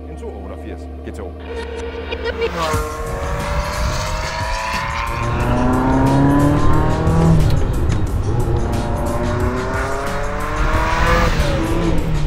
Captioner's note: The sound of a Ferrari 288 GTO